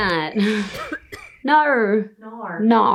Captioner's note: coughing